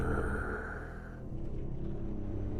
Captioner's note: tense music; killer growling; ominous music